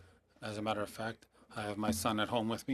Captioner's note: speaking French